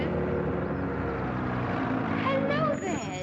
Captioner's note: engine stops